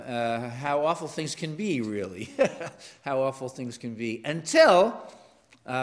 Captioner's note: laugh